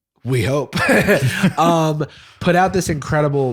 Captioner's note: laughs